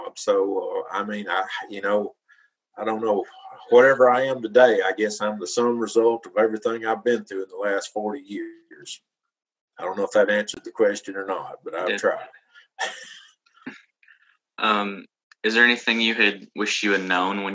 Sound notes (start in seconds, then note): 12.7 chuckles